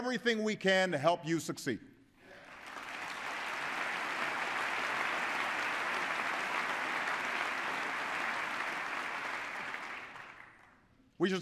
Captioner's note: applause